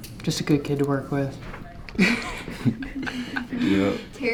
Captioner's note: both laughing